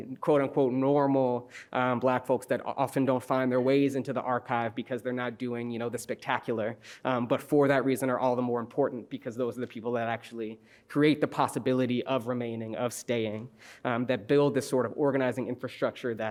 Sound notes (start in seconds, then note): none